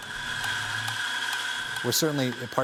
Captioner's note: coffee being ground